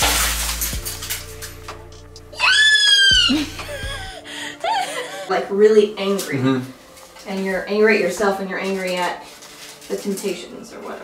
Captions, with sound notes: yay! [laughter] like, really angry and you're angry at yourself, and you're angry at the temptations